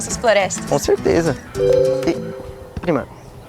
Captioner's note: notification